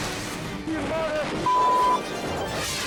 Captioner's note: beep